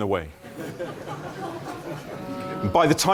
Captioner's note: laughter